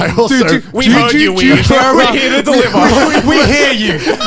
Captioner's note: hosts laughing